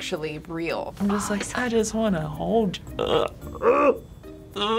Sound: groans

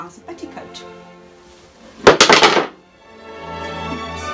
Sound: bangs

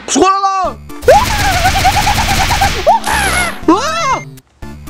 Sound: attack Noises

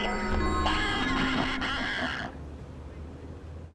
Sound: laughter

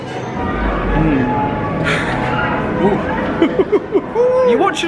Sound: sighing; whooping

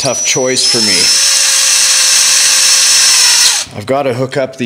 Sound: drilling

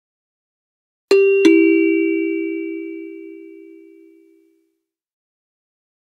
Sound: sound of ding dong

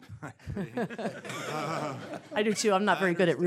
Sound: laughter

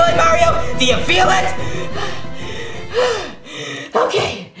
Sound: pants

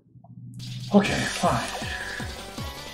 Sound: sighing

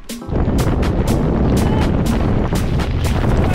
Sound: wind blowing

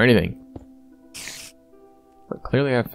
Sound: spider sound

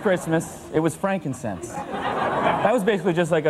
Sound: audience laughs

